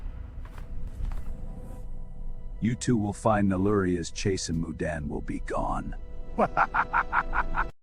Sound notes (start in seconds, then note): 6.3 evil Laugh